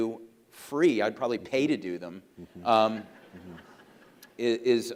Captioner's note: audience laughs